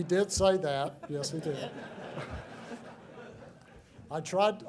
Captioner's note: laughter